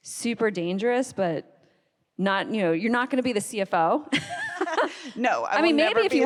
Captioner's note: laughs